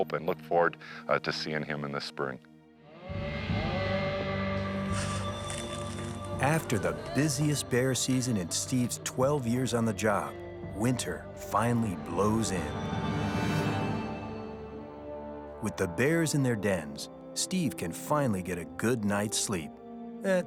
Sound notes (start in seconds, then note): 3.0 soft dramatic music; 4.7 bear growling; 4.8 claws scratching; 13.1 dramatic music